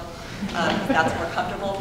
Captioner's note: audience laughing